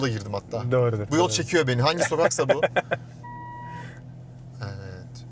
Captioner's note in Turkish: kahkaha